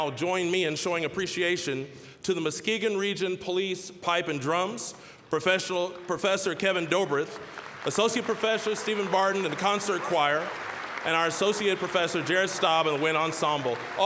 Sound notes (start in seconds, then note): 7.0 applause; 10.4 applause